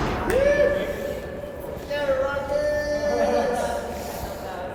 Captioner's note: cheering